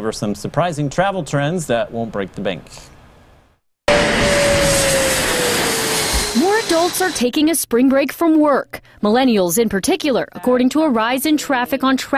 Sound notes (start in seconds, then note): 3.9 sound from flight